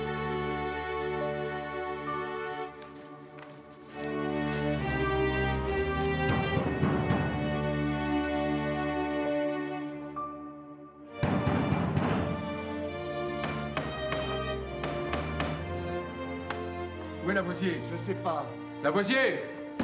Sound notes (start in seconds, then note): 6.2 pounding at door; 11.2 pounding at door; 14.7 knocking at door